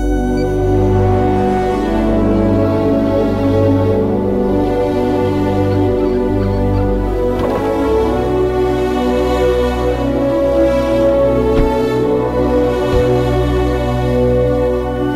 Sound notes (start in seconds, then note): 7.1 car door opening; 11.1 car door closing